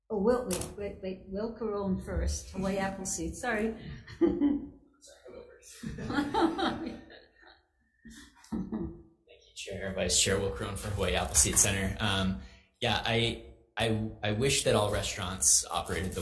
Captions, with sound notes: Oh, Will, wait, wait, wait. Will Caron first, Hawaii Appleseed. Sorry. (laughs) - It's okay, I'm over it. (attendees laughing) Thank you Chair, Vice Chair. Will Caron for Hawaii Appleseed Center. Yeah, I wish that all restaurants operated